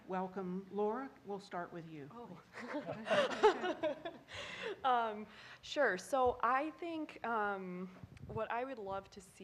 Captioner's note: laughing